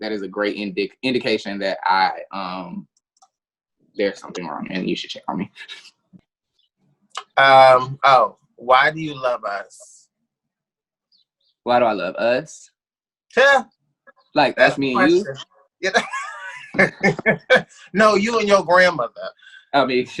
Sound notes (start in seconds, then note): 14.9 laughs; 15.8 both laughing